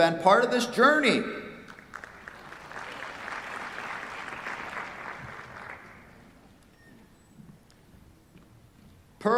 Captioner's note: applause